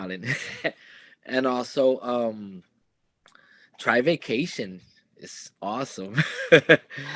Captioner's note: laughs